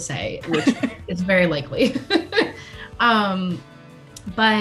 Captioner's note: laughs